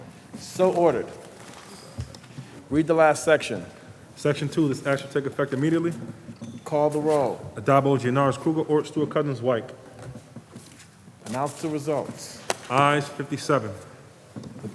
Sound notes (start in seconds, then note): none